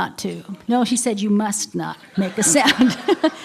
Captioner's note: laughter